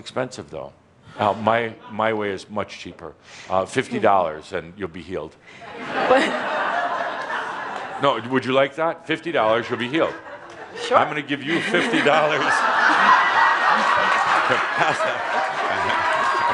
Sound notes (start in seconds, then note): 5.6 laughter